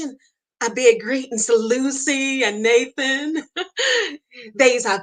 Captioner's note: laughs